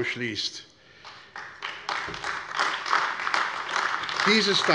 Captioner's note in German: Beifall AfD